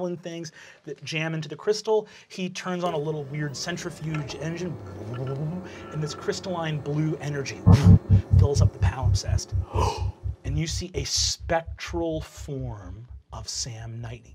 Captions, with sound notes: that jam into the crystal. He turns on a little, weird centrifuge engine (imitates whirring) and this crystalline blue energy fills up the palimpsest. (gasps) And you see a spectral form of Sam Nightingale,